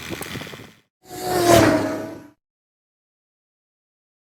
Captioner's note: sound of fast car driving